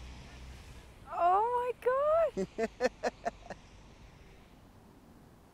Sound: Dean laughs

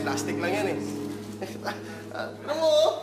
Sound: laughs

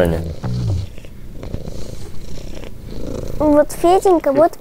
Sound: purring

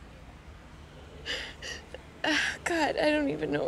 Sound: sighs, sniffles

